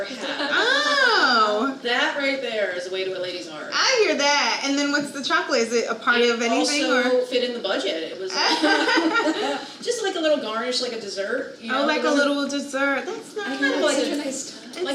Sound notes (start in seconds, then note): 8.4 everyone laughing